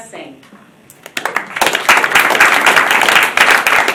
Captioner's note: applause